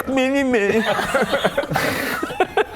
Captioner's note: suitably suspicious laughter